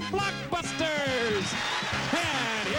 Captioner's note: audience applauding